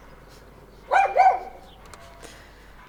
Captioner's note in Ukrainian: гавкіт